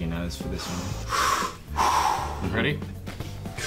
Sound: deep breath

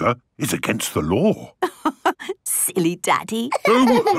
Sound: laughing

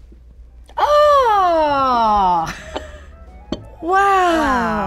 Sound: exclaims

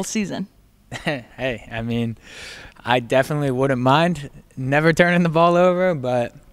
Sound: lacht

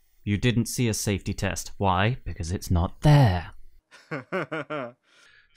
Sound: laughter

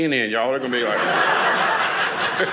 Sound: audience laughing

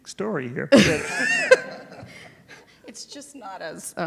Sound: panel laughing

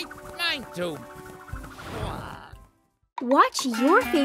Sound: duck quacking

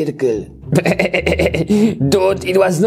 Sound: Jeff chuckling

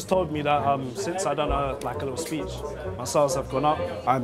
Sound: murmuring

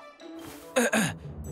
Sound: cough

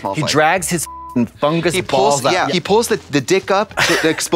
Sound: beep

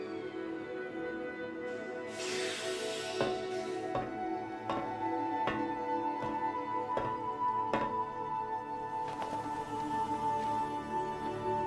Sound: walking on metal stairs

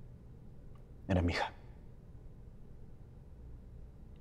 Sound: Spanish

